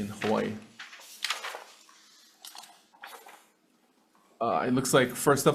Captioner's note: papers rustling